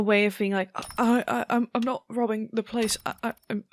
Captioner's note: stammering